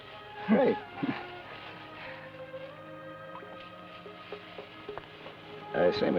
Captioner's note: chuckles